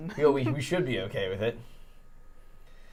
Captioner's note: laughs